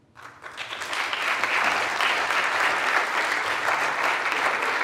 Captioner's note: audience clapping